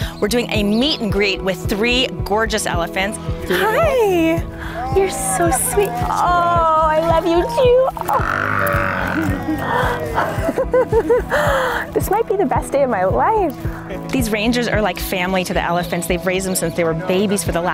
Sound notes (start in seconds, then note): 7.2 elephant moans; 10.4 laughing